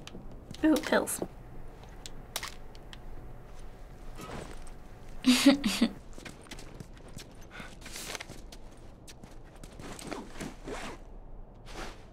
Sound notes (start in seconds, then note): 2.1 objects rattle; 4.9 whines; 7.7 paper rustles; 9.8 unzips backpack